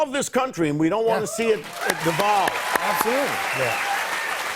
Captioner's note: cheers and applause